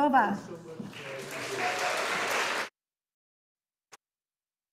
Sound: audience applauding

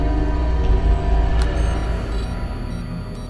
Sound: beeping

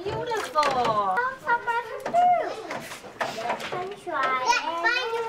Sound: background chatter

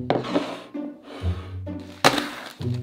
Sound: bowl sliding

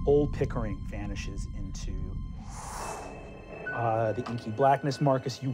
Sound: wind blowing

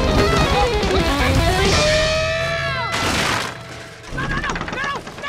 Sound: screaming

